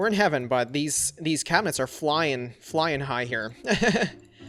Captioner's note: laughs